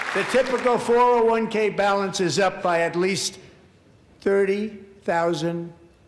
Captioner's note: applause